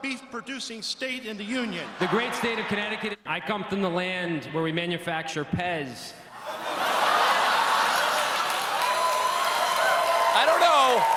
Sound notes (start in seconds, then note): 4.6 applause; 4.6 laughter